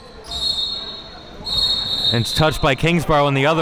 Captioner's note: whistle blowing